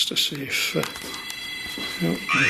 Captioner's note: beeping